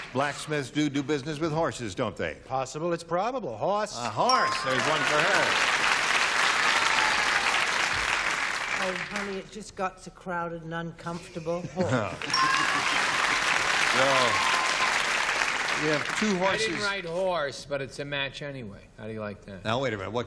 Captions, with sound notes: Blacksmiths do do business with horses, don't they? - Possible, it's probable. Horse! - A horse! There's one for her. [applause] - Oh, honey, it just got too crowded and uncomfortable. Horse. [applause] - You know, you have two horses-- - I didn't write horse, but it's a match anyway. How do you like that? - Now, wait a minute.